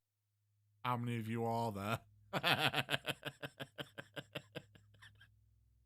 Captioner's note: laughs